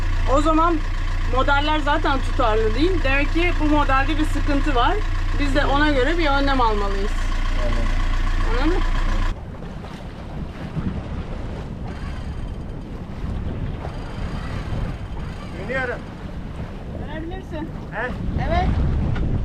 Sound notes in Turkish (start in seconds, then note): 11.7 Vinç sesi; 19.2 Rüzgar sesi